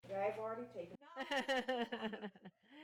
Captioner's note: laughing